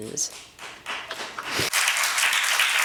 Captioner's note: applause